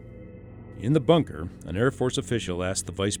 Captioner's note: voiceover